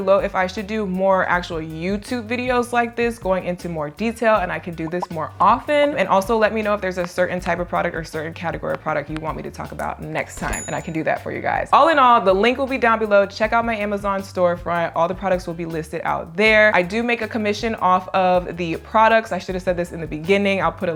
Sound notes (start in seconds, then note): 5.5 button bubbling; 10.4 bell ringing